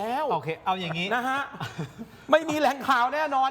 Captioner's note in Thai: เสียงหัวเราะ